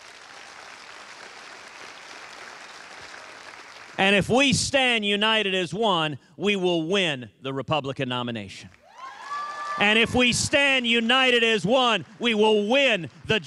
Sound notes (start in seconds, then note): 3.3 applause